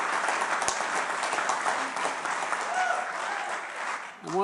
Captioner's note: applause